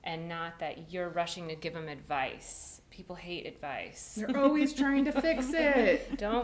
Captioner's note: laughs